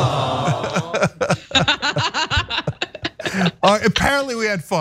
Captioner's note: laugh